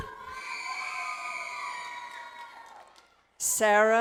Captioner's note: audience cheering